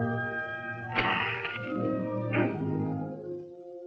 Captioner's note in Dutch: kreunen; orkestmuziek